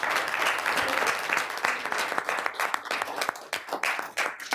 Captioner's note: applause